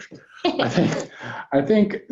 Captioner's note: both laugh